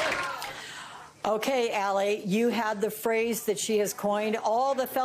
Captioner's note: applause